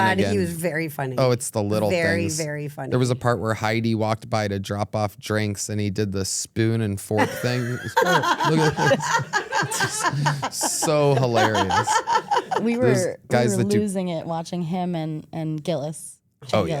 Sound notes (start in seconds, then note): 7.2 laughing; 11.9 laughs